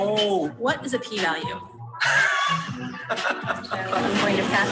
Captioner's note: man laughs